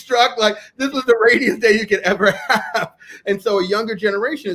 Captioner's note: laughs